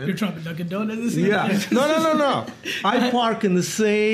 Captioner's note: Gary laughs